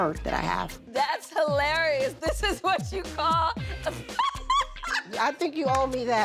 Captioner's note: laughs